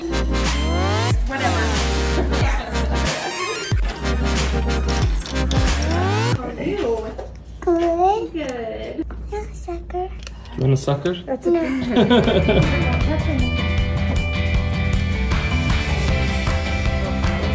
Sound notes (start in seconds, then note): 0.0 upbeat electronic music; 11.6 laughs; 13.0 upbeat rock music